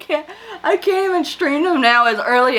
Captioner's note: laughs